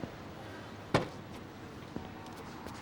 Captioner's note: trunk pops